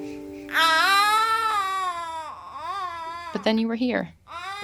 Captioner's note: baby crying